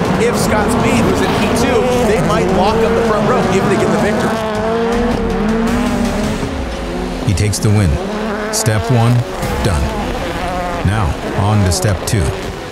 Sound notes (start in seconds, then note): 4.1 engines drown out commentator